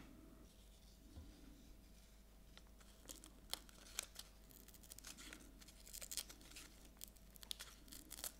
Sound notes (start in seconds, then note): 3.3 paper tearing